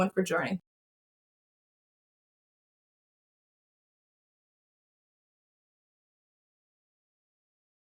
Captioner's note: silence